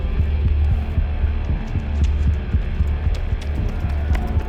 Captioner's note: threatening ambient music; running footsteps